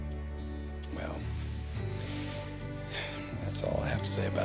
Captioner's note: sighs